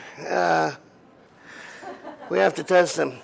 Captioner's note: laughter